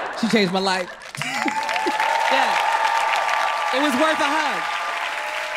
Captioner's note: crowd applauds